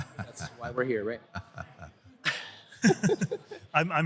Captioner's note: laughter